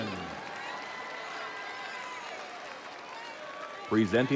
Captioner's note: audience cheering